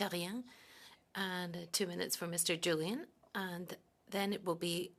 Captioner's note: speaking French